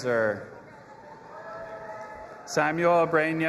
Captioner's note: audience applauding and cheering